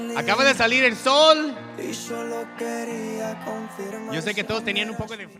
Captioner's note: audience cheers; speaking in Spanish